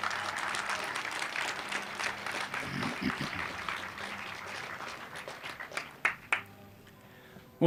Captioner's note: applause